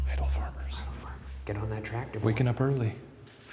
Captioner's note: whispers